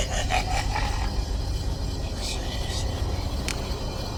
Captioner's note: laughter; whispering